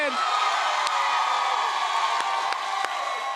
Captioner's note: cheers and applause